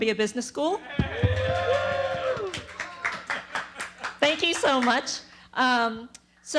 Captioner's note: applause